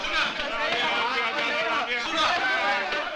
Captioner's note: Malay spoken audio